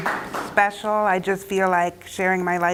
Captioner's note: applause